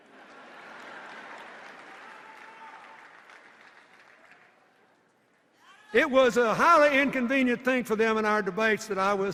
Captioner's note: laughter